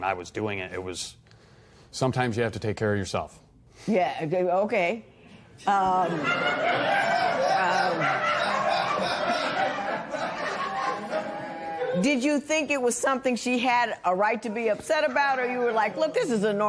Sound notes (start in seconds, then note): 9.0 laughter